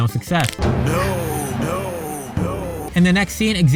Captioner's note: echoes twice